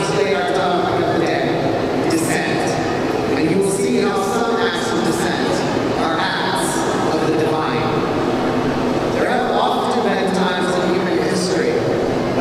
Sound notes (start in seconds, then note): none